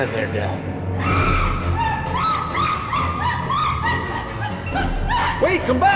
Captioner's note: suspenseful music; Pita screaming frantically